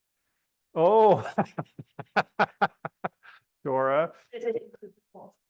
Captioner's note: laughs